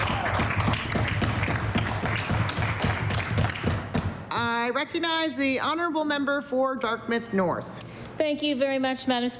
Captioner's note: applause